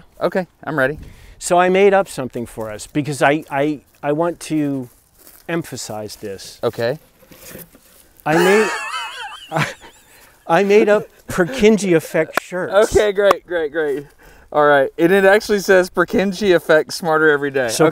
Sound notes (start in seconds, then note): 8.2 breaks out laughing